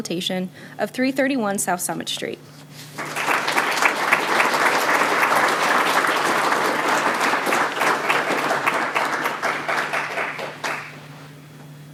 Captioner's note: applause